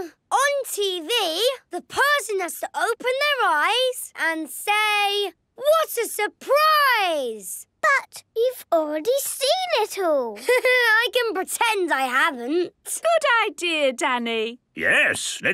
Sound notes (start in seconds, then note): 10.3 Danny laughing